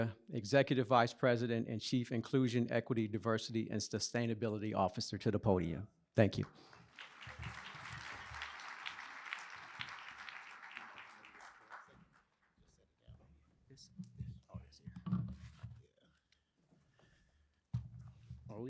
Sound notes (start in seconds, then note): 11.0 applause